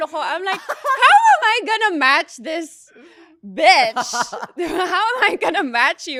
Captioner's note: laughs